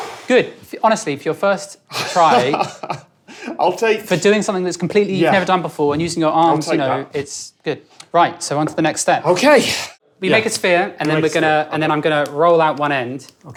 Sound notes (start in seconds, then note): 2.0 chuckles